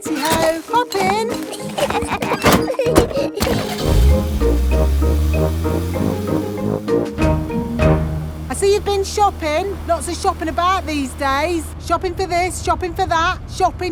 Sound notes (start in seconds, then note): 0.3 laughing; 3.7 car engine starts